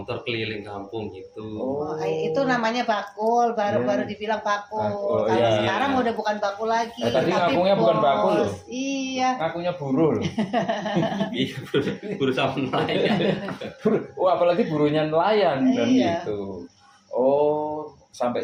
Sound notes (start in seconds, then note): 10.2 laughs